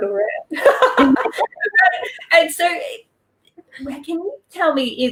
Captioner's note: both laugh